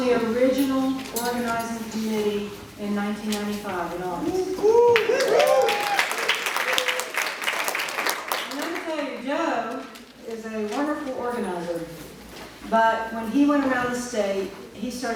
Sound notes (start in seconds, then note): 4.8 audience cheering and applauding